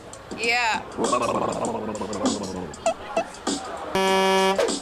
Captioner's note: gurgling